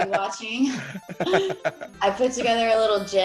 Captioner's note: laugh